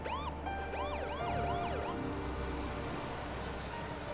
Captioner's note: siren chirping